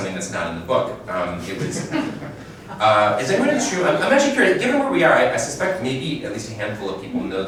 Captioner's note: chuckle